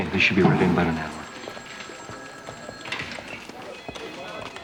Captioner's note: telephones ringing